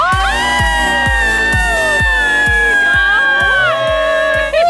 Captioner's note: girls exclaiming